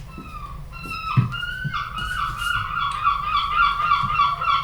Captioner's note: seagulls cawing